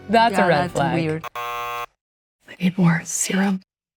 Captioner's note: tone buzzing